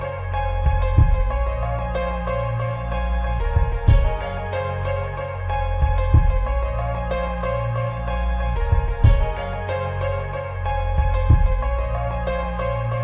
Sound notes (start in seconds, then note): none